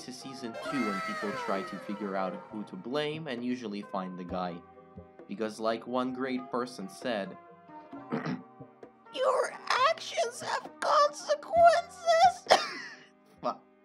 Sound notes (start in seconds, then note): 8.1 clears throat